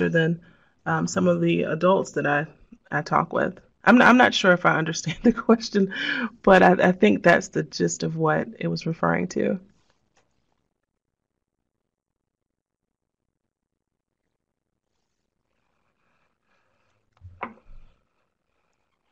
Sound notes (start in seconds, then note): 14.1 silence